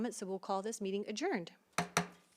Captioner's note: gavel hitting dais